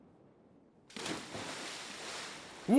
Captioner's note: anchor splashing